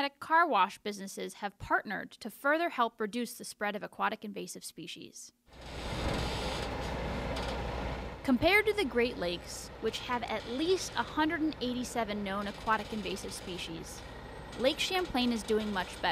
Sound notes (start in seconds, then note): 5.6 screen whoosh open